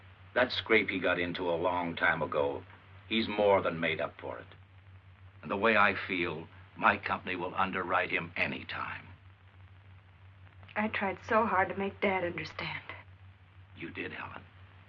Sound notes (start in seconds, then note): none